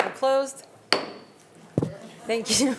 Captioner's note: gavel bangs